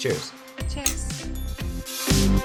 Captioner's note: clanking; cheerful music